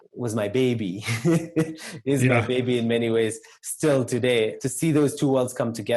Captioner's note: laugh